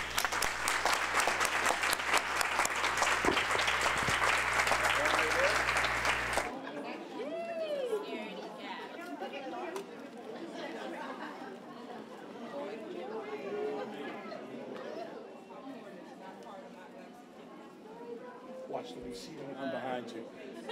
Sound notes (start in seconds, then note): 0.0 applause; 6.4 crowd noise